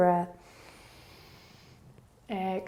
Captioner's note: inhaling